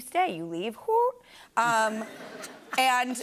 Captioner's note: laughter